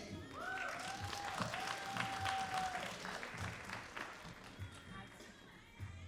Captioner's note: all applauding and cheering